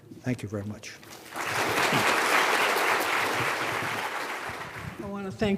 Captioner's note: audience clapping